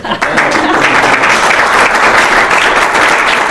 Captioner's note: applause